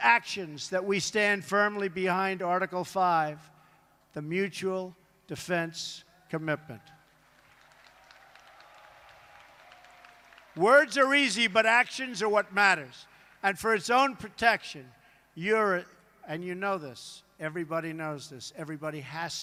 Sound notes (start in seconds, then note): 7.0 applause